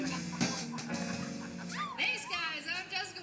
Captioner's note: laughing; screams